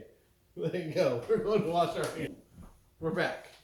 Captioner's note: laughing